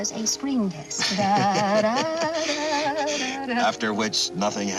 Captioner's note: imitating violin music